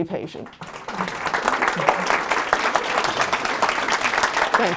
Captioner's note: applause